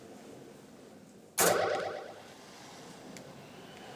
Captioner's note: pinball noises